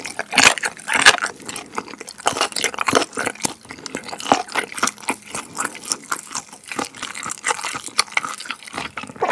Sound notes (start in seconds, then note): 2.1 now I hear some crunchy sounds